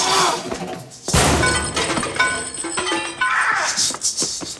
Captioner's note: grunting; maracas shaking; metal crashing